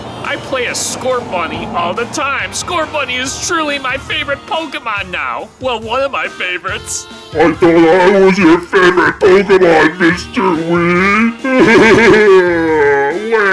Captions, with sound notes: play a Scorbunny all the time Scorbunny is truly my favorite Pokemon now I thought i was your favorite pokemon Mr Wii (Crying)